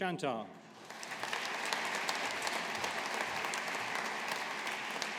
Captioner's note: audience applauding